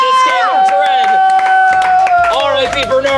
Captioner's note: cheers